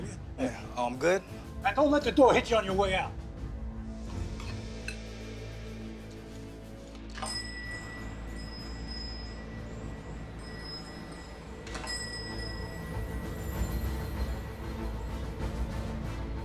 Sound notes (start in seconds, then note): 7.1 bell on door jingles; 9.8 tense music